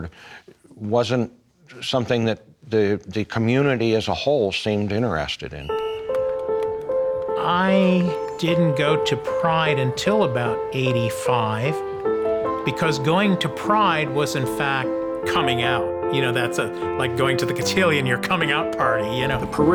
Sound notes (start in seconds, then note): 5.6 whistling and cheering